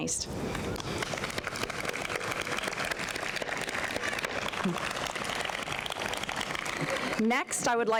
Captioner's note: applause